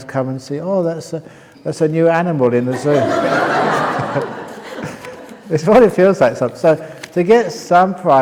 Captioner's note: laughter